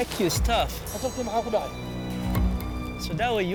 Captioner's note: speaking foreign language